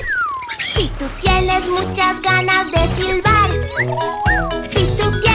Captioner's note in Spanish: Sonido de silbido; Sonido de silbido